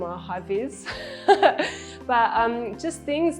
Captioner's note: laughs